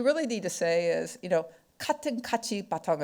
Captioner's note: speaking foreign language